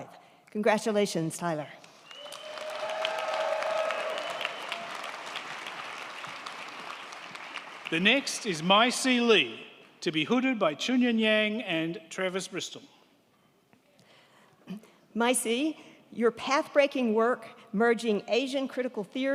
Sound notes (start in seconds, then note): 1.8 crowd clapping; 1.9 crowd cheering